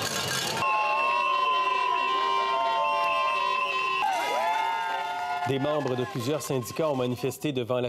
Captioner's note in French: crécelles et sifflets